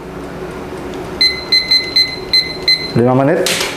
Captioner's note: beeping sound